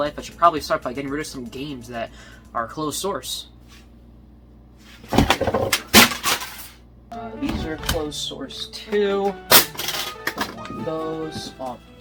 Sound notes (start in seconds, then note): 5.1 games hitting floor; 9.6 calculators hit floor